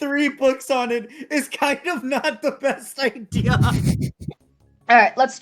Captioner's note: chuckles